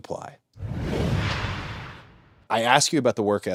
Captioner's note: logo whooshes